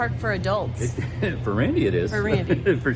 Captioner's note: laughs